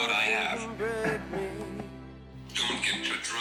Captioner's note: chuckles